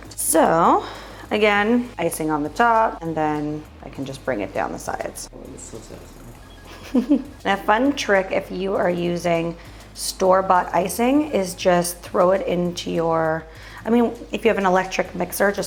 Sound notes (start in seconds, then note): 6.6 giggles